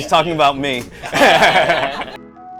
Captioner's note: laughter; upbeat music